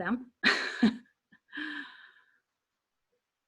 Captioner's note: laughing